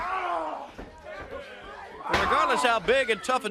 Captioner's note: crowd chatter